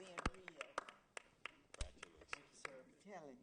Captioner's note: applause